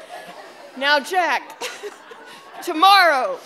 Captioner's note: everyone laughing